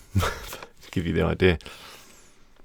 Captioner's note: chuckles